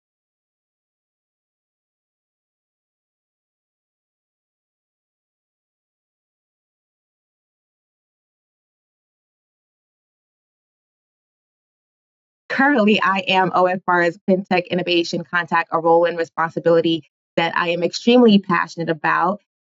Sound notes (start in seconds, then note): 4.0 microphone temporarily muted